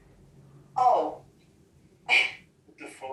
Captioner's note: laughs